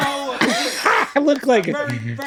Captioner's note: laughing